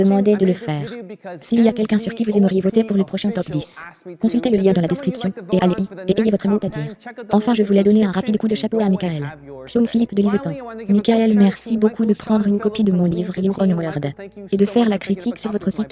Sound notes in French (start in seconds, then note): none